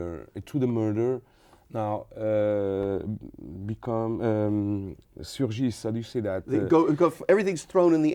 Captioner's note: speaking French